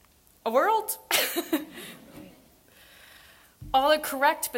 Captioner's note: laughs